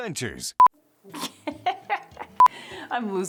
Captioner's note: laughing